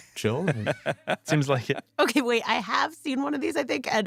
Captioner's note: laughs